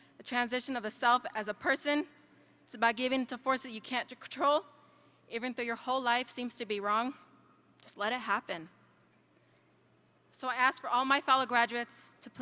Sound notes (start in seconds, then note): none